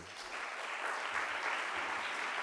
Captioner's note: audience applauding